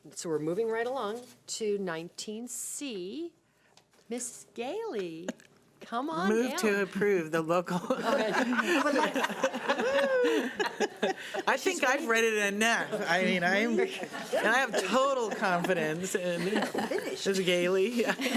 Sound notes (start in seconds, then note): 7.9 laughing